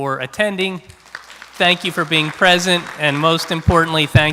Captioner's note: applause